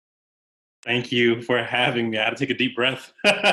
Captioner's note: laughs